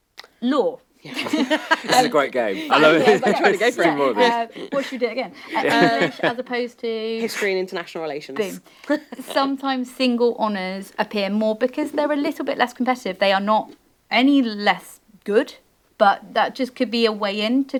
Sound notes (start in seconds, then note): 1.1 panel laughing; 3.1 panel clamoring